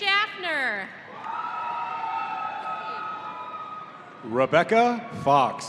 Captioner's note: audience cheering